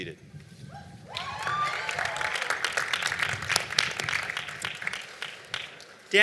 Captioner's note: cheering and Applause